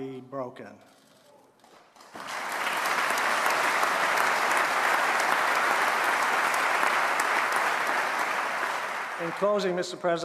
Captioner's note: applause